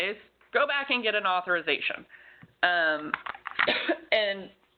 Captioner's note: coughs